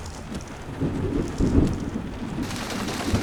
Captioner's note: thunder